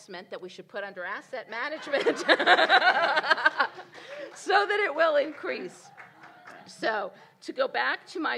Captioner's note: laughter and Applause